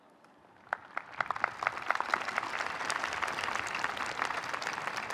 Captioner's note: audience applauding